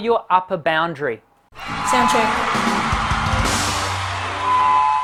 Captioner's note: applause